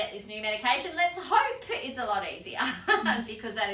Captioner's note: laughs